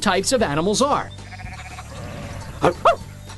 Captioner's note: barks